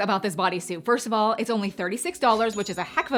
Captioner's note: cash register dings